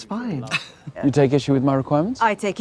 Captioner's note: Katya scoffs